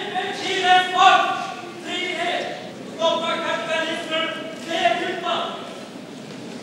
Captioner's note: still shouting at Milton